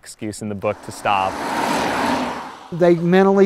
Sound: car drives

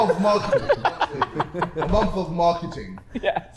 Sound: Sidemen laughing

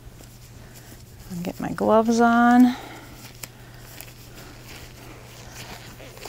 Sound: gloves stretching

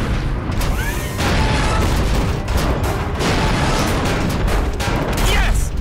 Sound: thudding

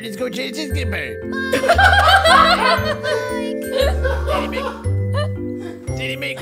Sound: laughs

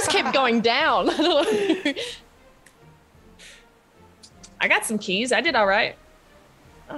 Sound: laugh

